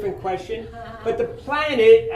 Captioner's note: audience laughing